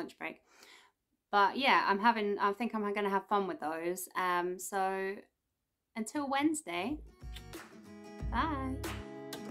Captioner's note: kiss